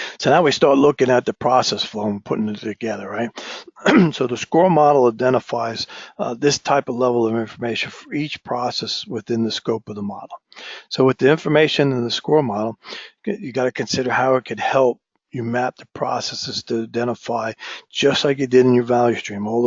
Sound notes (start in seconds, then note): 3.7 cough